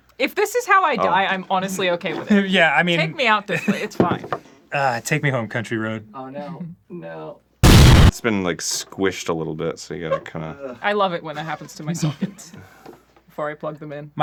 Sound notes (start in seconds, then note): 7.6 explosion